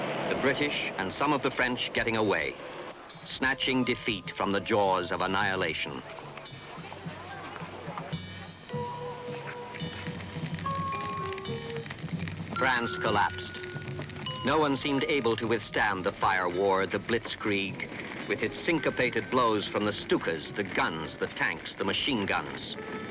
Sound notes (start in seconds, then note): 8.1 tense thoughtful music; 10.3 fire crackles